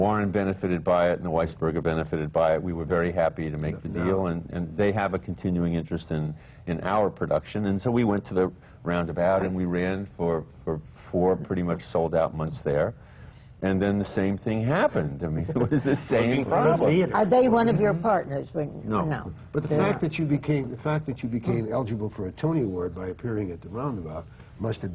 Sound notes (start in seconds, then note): 15.4 laughter